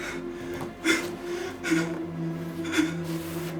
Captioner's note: crying